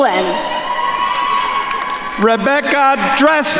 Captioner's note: attendees cheering and applauding